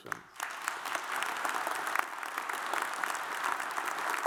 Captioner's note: audience applauds